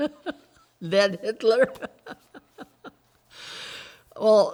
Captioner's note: laughs